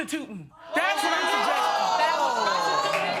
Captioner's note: audience exclaiming